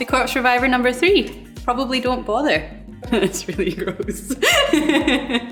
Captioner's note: laughs